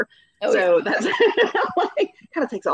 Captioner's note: laughing